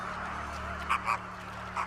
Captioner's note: croaking